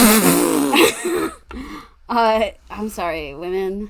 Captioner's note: sputters